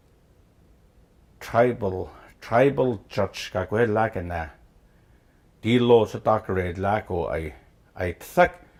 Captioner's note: speaking Gwich'in